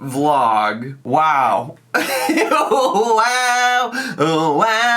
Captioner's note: laughs